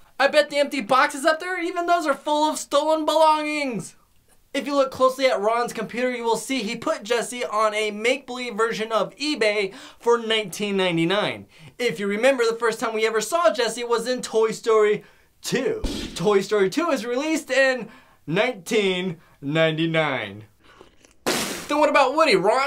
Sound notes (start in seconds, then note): 18.9 Ron spits